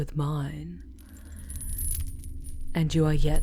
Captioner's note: chains rustling as you are suddenly pulled upward